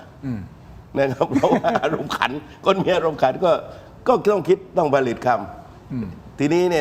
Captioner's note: laughs